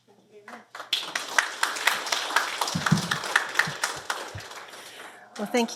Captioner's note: applause